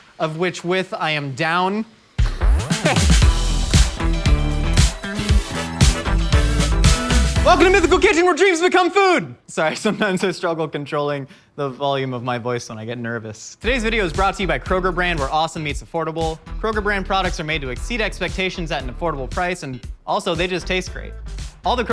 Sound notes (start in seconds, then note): 2.2 upbeat music; 2.5 laughing